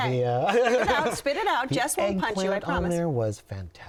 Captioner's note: laughing